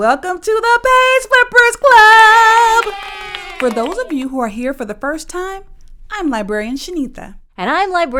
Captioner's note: kids cheer